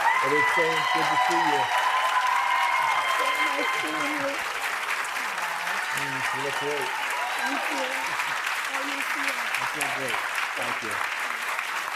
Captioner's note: applause